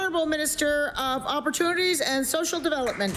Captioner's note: applause